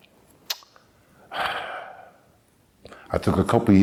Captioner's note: sigh